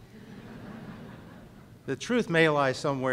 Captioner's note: laughter